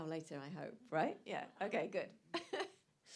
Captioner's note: laughs